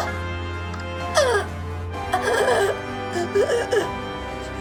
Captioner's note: Iris screams in pain; Iris chokes and gasps